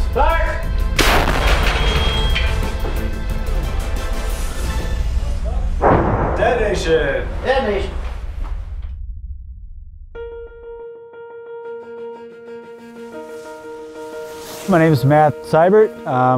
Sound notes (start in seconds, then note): 1.6 dramatic music; 5.6 explosion booming; 10.2 suspenseful music